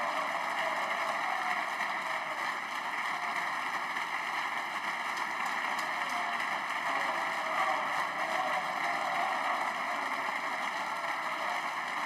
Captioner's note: applause